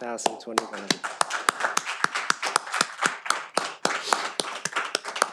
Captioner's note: all applaud